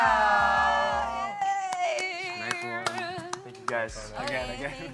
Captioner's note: applauds